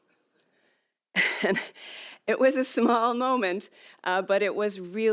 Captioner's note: laughs